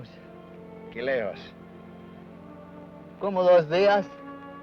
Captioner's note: Ben speaks foreign language